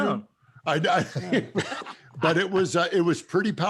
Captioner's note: laughter